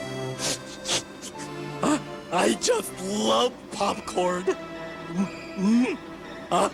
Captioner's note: sniffle